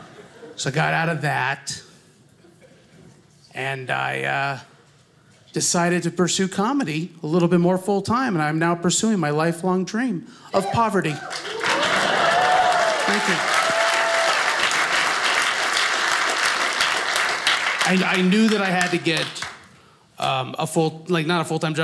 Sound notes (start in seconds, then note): 10.6 audience cheers; 13.5 audience applauding